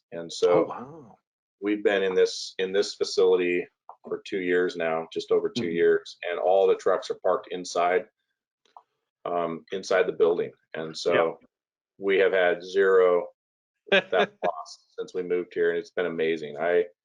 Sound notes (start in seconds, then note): 14.0 laughing